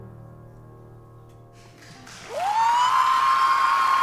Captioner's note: cheering